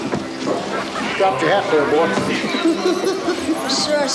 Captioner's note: giggles